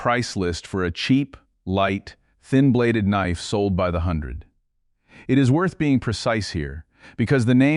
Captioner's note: serious tone